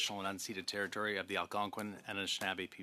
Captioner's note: speaking French